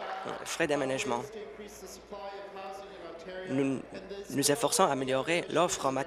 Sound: applause

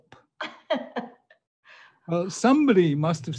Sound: laughing

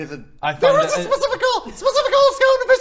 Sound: squeaky rage

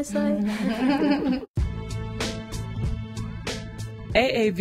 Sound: laughter

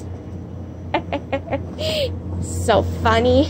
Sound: laughs

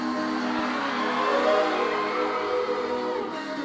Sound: audience cheering

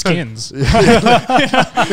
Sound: laughing

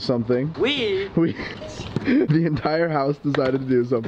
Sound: chuckles

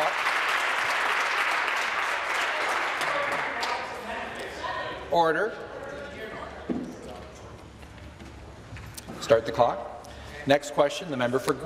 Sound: applause

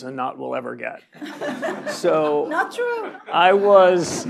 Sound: laugh

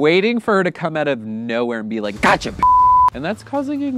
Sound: beep

